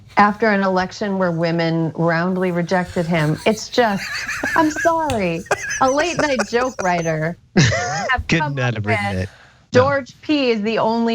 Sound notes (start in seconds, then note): 7.4 laugh